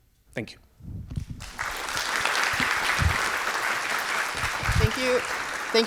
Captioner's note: audience clapping